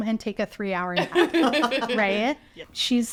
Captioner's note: people laughing